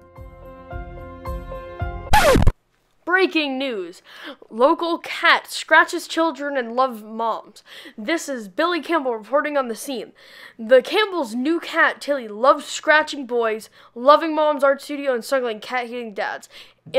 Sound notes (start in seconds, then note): 0.0 happy music; 2.1 screeching noise